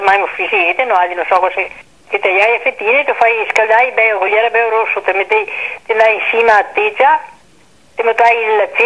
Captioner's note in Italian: in italiano